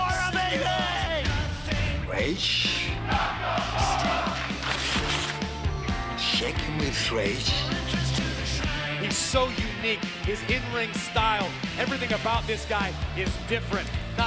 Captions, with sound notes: >> NAKAMURA MELEE! [FANS CHANTING] >> RAGE? SHAKING WITH RAGE. >> HE'S SO UNIQUE. HIS IN-RING STYLE, EVERYTHING ABOUT THIS GUY IS DIFFERENT.